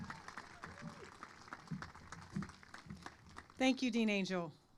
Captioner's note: applause